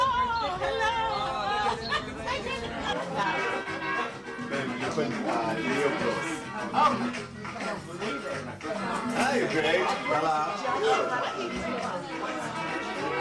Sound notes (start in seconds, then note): 2.1 people chatting; 2.9 upbeat music